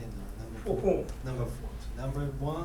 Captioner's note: speaking in foreign language